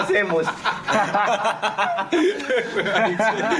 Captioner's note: all laughing